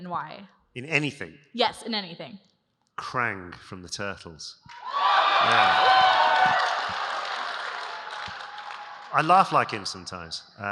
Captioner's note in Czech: Potlesk